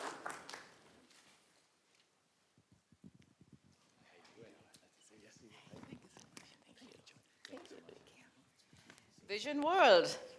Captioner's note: applause